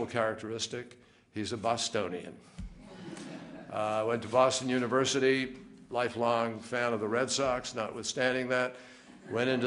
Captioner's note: laughter